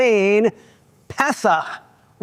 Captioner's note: speaking Hebrew